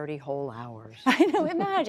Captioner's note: laughter